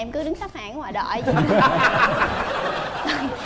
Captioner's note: laughing